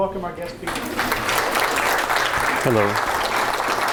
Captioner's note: applause